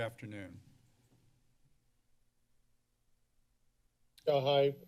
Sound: silence

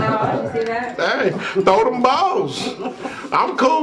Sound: laughing

